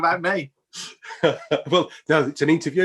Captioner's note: laugh